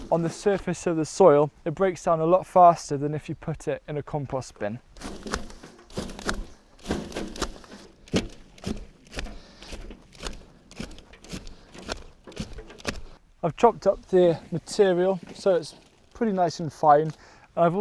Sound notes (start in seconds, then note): 5.0 chopping